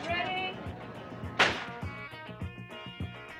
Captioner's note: gunshot